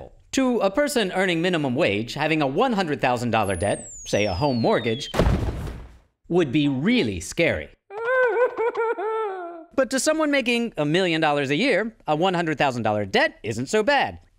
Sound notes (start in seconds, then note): 7.9 crying